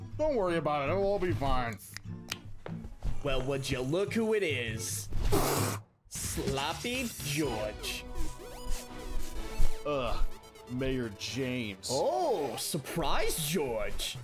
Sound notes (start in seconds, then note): 1.8 can opening; 2.5 footsteps